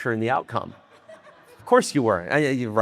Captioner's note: audience laughing